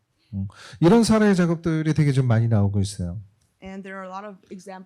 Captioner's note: speaking korean